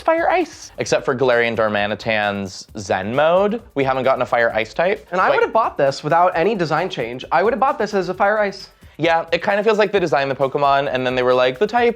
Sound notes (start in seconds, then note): none